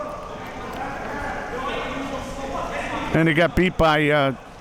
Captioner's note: audience and players chattering